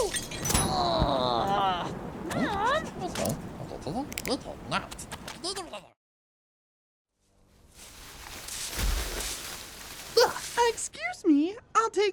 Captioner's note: socks hissing